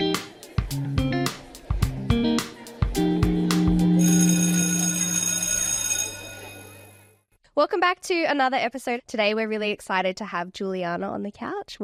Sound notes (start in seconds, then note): 0.5 upbeat music; 4.0 bell ringing